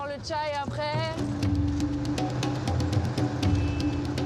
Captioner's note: non-english speech